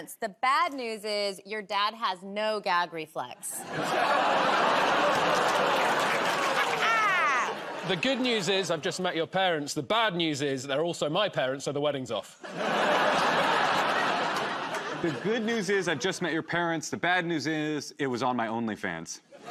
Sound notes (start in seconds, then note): 3.6 audience groans; 12.4 laughter